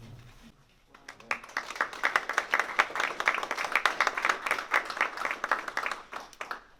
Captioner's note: applause